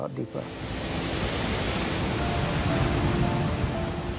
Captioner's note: ice crashing